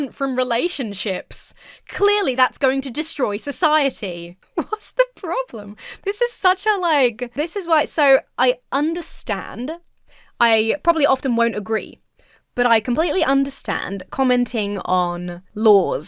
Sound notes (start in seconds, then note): 5.4 giggles